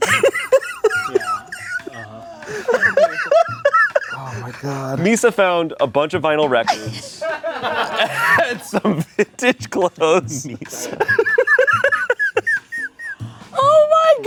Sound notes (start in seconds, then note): 0.0 everyone laughs; 7.5 crew laughs; 10.1 laughs